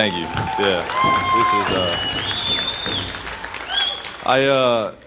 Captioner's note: audience applauding and cheering